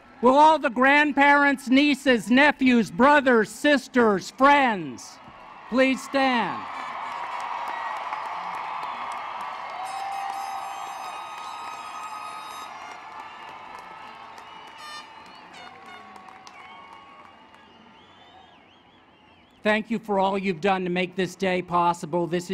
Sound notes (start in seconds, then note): 5.2 applause